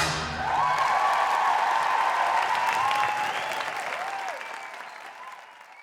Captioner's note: cheers and applause